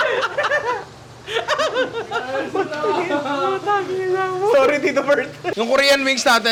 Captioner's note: laughter